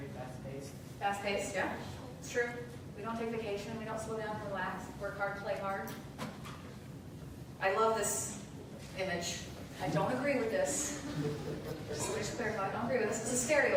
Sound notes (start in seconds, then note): 10.9 light laughter